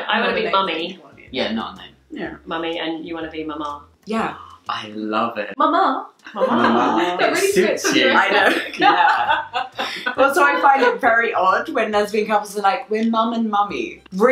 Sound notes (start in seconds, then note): 5.0 gasping; 9.1 laughing